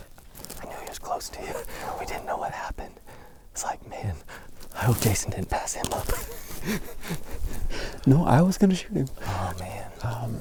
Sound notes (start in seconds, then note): 5.9 laughing